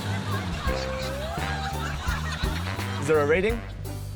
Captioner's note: laughter